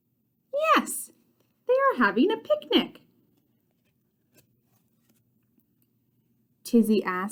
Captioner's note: turning page